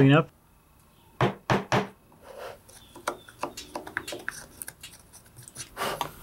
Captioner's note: tools scrape and bang